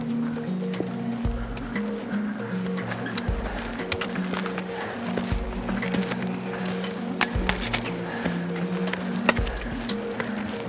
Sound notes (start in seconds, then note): 0.1 upbeat guitar music; 5.7 footsteps and heavy breathing